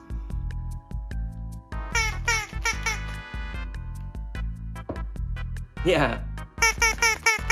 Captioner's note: sqwawk Sqwawk Sqwawk Sqwawk; sqwawk Sqwawk Sqwawk Sqwawk Sqwawk